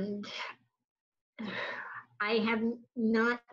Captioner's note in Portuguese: suspira